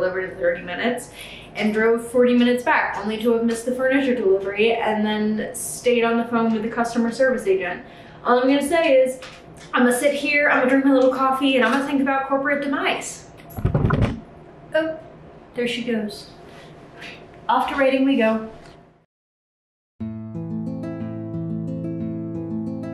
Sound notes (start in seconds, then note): 13.4 camera moving; 20.0 gentle music